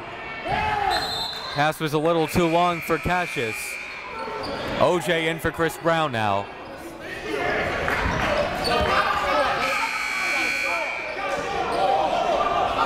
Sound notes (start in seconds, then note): 9.9 buzzer goes off; 11.9 coaches yelling; 11.9 crowd talking